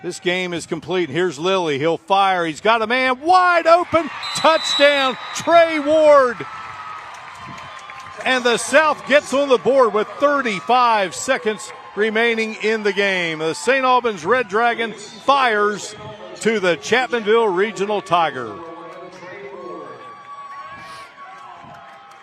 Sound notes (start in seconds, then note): 9.5 applause